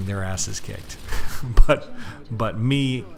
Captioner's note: chuckles